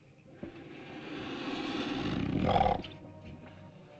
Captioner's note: ominous music; lizard hisses & growls; ominous music